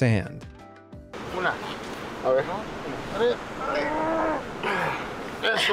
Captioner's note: men speaking in foreign language